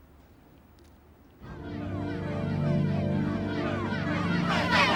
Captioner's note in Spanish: gritos y clamores